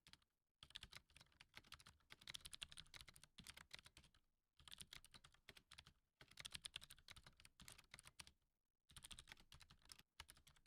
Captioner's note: typing